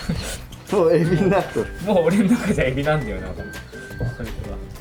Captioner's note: laughs